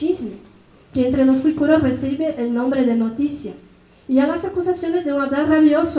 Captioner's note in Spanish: habla en mazateco